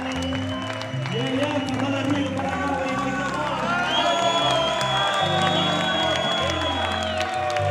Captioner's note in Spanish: aplausos